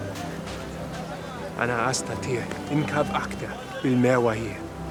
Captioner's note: Hebrew spoken audio